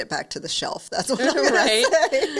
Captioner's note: laughs